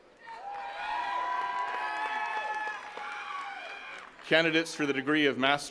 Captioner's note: attendees cheering and clapping